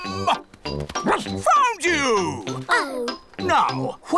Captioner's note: barks